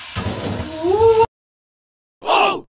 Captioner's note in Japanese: 叫び声